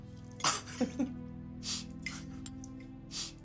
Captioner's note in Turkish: Gülüyor